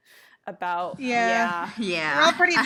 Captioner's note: chorus of yeah